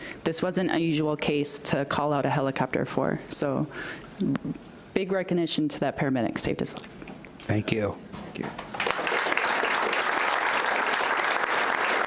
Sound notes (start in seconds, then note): 8.6 audience applauds